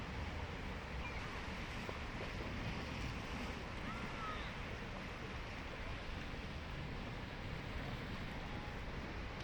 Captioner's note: water flowing